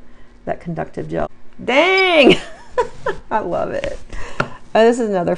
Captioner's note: laughs